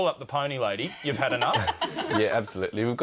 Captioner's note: hosts laugh